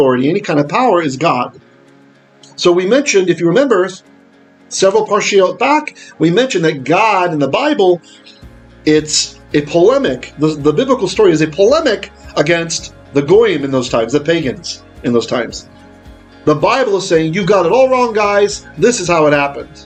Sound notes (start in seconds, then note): 12.3 Hebrew